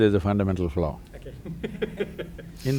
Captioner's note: laughs